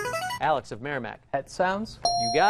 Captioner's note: ding